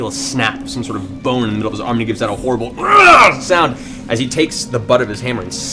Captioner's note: yells